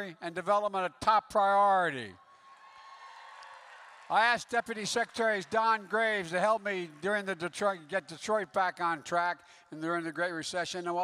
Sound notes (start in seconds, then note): 2.4 applause